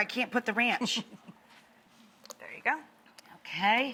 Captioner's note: laughs